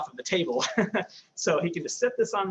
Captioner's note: laughs